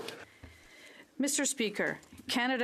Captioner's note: speaking French